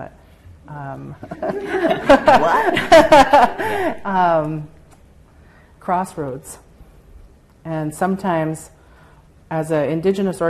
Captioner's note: laughter